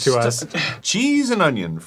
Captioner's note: arin scoffs